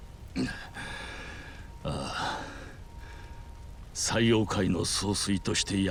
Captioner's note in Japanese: 咳払い